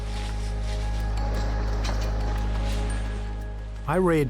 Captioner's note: inspiring music; footsteps crunching